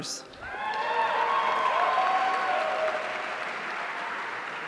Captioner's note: audience cheering